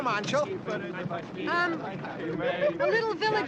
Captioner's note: stutters